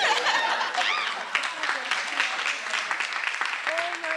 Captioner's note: laughing; attendees cheering; attendees applauding